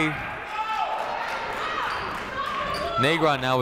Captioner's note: people shouting in the crowd